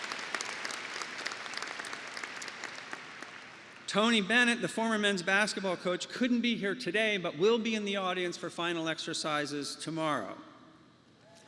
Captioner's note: applause